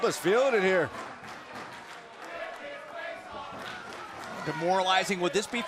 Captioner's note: crowd cheering